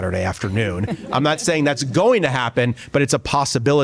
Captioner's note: laughter